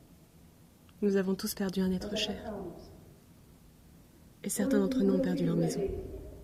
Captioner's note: speaks in foreign language